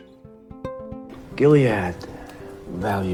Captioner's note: voiceover